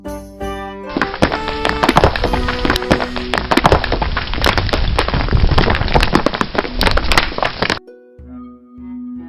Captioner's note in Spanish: Sonido de escavando tierra